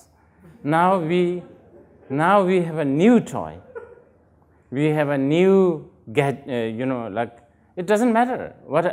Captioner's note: laughter